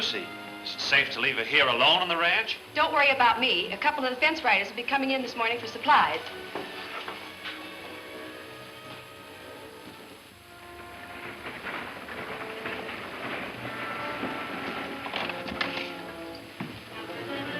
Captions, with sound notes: - Is it safe to leave her here alone on the ranch? - Don't worry about me. A couple of the fence riders would be coming in this morning for supplies. (wagon clattering) (doorknob clicks)